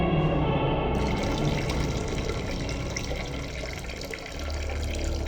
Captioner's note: fluid dripping